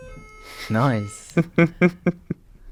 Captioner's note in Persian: خنده